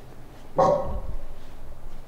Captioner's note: Boost Dog barking, but more subtle